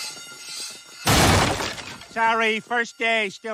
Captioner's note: ceiling crashing